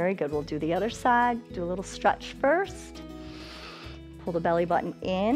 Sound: inhales

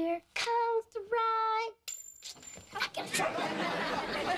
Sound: drops ring

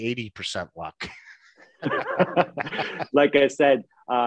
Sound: laughing

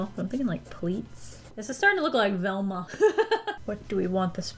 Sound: laughs

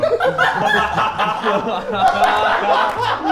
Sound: Sidemen laugh

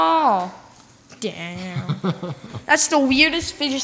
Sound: laughs

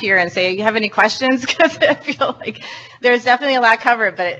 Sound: laughs

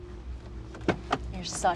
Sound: door opens

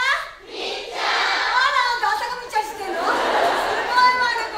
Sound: laughter

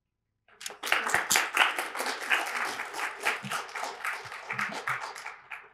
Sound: applause

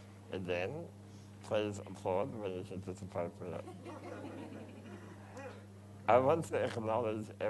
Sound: crowd laughs

